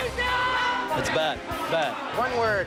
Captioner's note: shouting